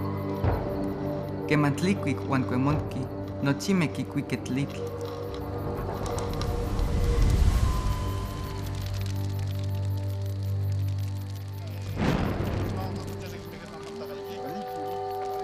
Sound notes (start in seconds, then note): 2.4 speaking Nahuatl; 7.1 fire flares and crackles; 12.4 people talking in Native language